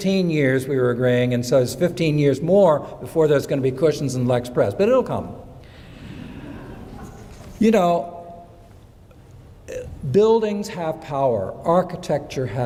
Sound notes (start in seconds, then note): 6.2 audience laughing